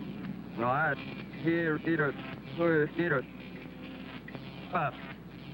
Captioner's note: alien speaking foreign language